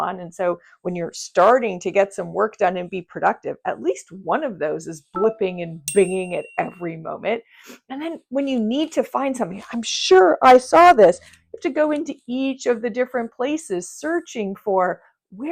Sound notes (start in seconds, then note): 5.8 notifications ding